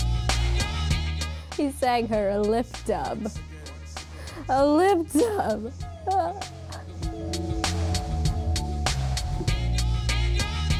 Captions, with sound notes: He sang her a lip dub... A lip dub... (crying)